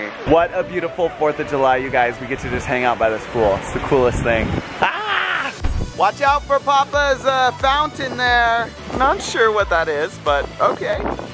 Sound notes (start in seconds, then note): 4.8 happily screeches